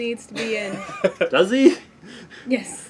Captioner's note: laugh